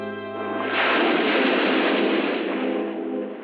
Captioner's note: waves crashing